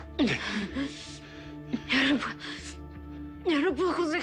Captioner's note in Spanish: Gemidos